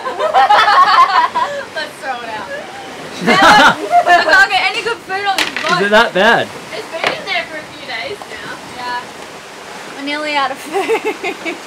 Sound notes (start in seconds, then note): 0.0 giggles; 2.4 laughs